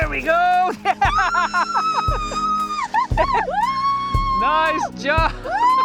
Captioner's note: laughing and screaming